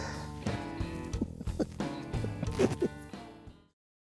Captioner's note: laughing